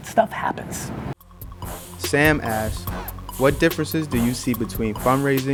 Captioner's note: voiceover